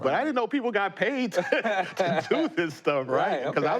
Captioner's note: laughter